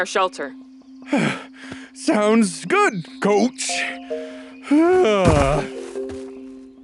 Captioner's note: gasping for air